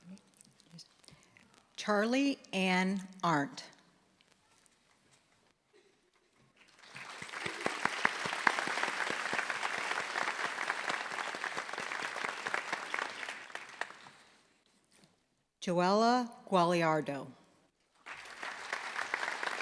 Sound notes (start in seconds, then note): 6.6 applause